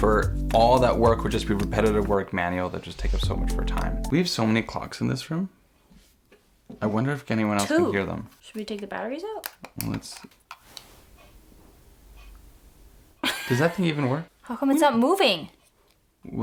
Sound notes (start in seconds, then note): 11.1 clock ticking